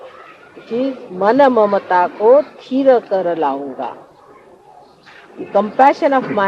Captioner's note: Hindi